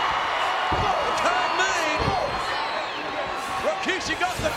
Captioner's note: applause